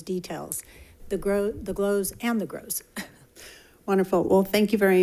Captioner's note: chuckling